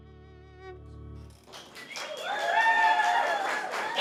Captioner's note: clapping